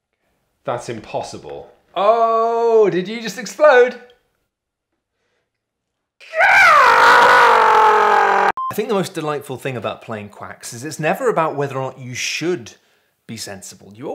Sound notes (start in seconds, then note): 6.2 anguished screaming